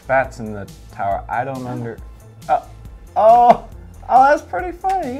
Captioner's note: laughs